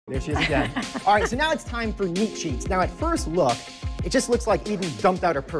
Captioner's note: laughs